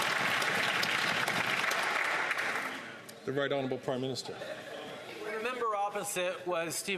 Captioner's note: some Applause